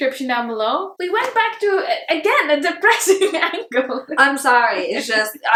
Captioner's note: chuckles